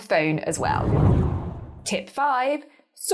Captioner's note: air whooshing